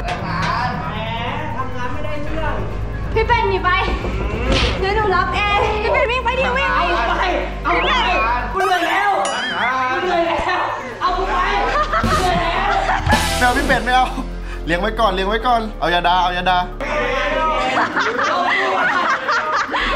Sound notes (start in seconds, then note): 13.1 laughs; 13.4 radio; 17.3 laughs; 17.5 laughing continues